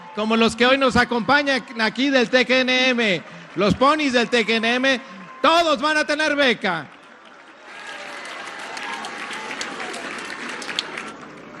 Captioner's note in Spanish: aplausos